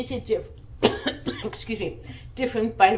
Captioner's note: coughing